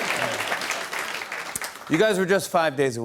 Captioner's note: applause; normal voice